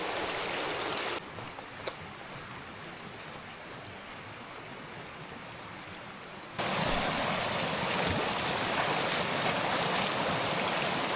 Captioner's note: water splashing